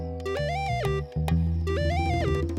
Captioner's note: electronic tone